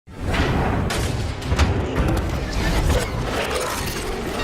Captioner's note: ominous rewinding sounds